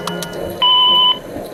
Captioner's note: phone Beep